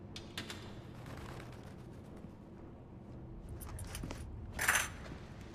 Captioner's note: handcuffs clatter